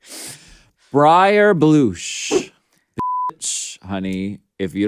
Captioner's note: beep